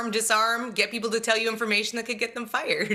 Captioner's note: laughter